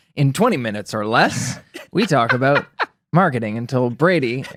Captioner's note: laughs